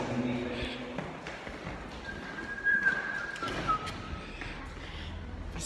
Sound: whitsling

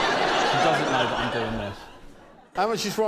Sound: laughter

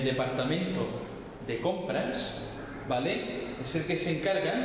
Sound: Spanish

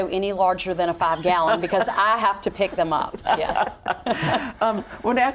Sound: laughter

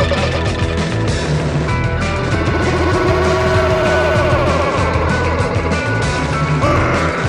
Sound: low ominous huh

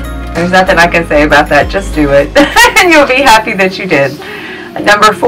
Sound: laughs

